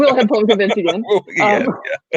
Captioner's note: laughing